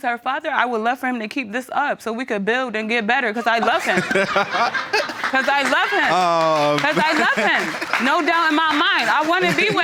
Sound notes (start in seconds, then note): 3.4 laughing; 6.1 audience applauding